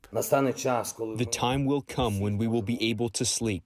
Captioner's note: through translator